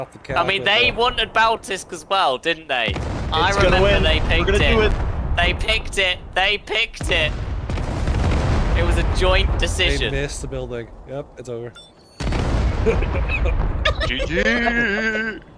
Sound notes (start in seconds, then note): 7.6 bombs blaring and building crumbling; 12.8 everyone laughing